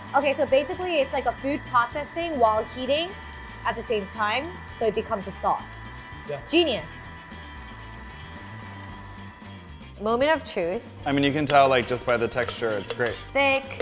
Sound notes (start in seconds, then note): 7.5 Thermomix whirring